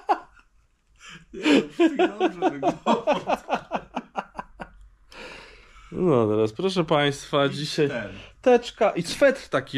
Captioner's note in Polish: śmiech